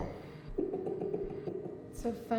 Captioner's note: keith laughs